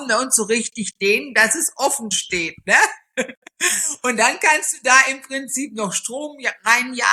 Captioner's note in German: gelächter